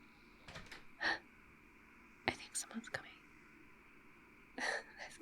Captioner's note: door opens; gasps; whispers